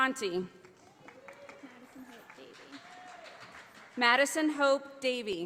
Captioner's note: audience applauding